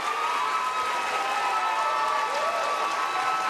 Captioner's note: cheers and applause